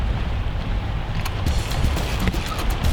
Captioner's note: reel clicks